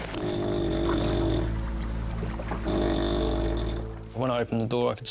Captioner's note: passenger groaning